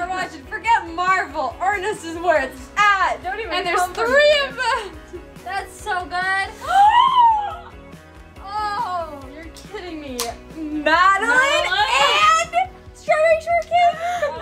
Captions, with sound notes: - This is what we're watching, forget Marvel, Ernest is where it's at. - And there's three of them! - That's so good. (gasps) You're kidding me. Madeline and Strawberry Shortcake?